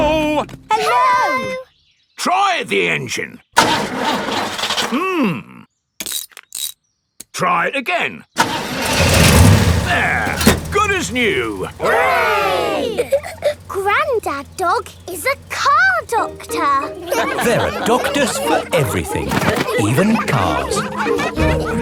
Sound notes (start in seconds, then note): 3.6 engine sputtering; 8.4 engine starts